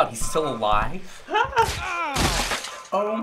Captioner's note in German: Track warbles; Ängstlich Quietschen; Blut spritzt